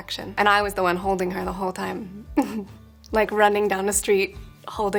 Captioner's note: chuckles